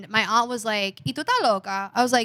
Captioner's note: speaking In Foreign Language